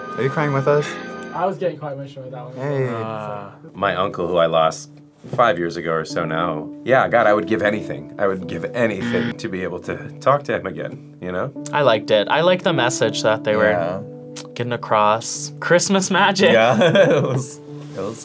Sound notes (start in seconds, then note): 9.0 buzzer rings; 16.4 laughs